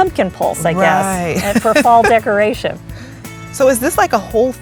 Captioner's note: chuckles